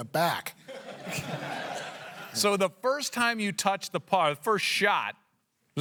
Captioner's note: laughter